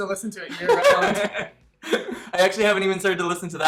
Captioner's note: both laughing